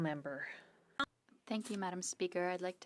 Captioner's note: speaking French